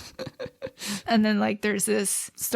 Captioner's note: laughs